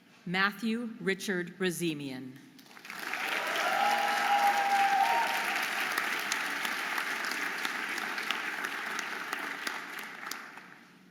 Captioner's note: audience applauding and cheering